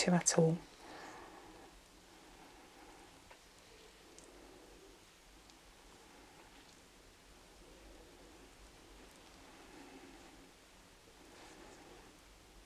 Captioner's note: shuffling and ruffling